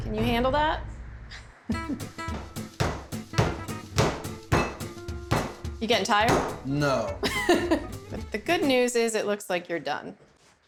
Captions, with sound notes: CAN YOU HANDLE THAT? [POUNDING SOUND] YOU GETTING TIRED? [SAYS SARCASTICALLY] NO. [CHUCKLES] THE GOOD NEWS IS IT LOOKS LIKE YOU'RE DONE.